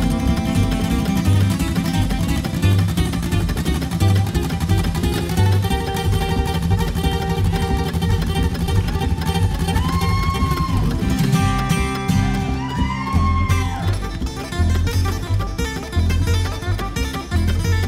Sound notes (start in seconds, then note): 9.1 crowd cheering; 13.7 upbeat bluegrass music